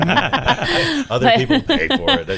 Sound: everyone laughing

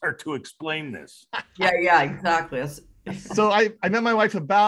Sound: laughs

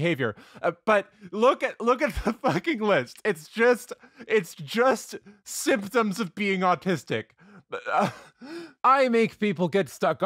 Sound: chuckles

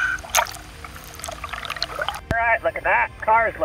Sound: water gurgles

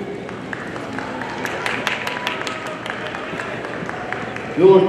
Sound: audience applauding

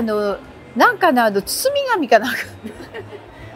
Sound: laughs

